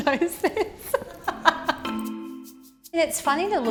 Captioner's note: laughs